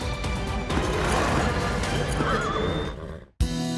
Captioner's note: bucking, neighing